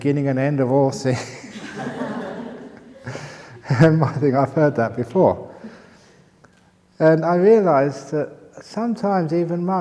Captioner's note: laughter